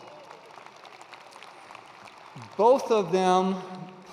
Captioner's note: attendees applauding